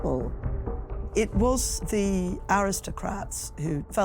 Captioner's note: Welsh